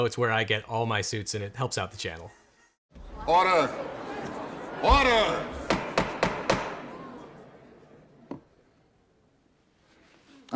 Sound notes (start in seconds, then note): 3.6 people murmuring; 5.6 gavel pounding